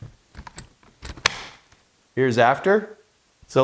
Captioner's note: part clicks into place